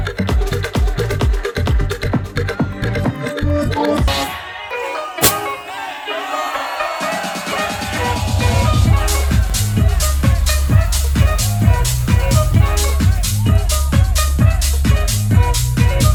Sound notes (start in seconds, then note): 0.0 upbeat music; 6.9 crowd cheering